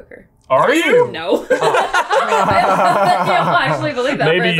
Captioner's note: all laugh